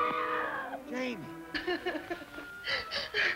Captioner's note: scream; crying